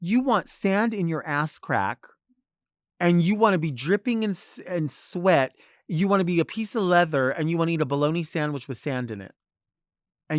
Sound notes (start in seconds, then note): none